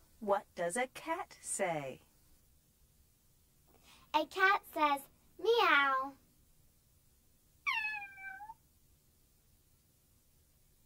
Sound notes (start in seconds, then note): 7.6 cat meows